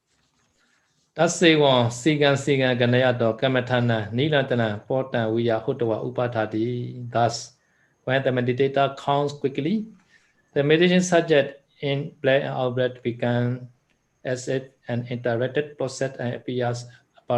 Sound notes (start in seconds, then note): 11.9 in breath and out breath